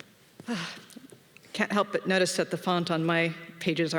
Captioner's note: exhales